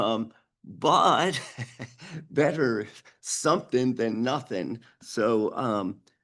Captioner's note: chuckles